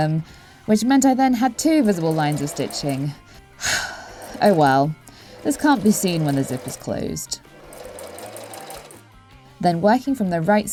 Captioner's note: sigh